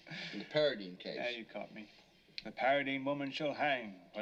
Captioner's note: chuckles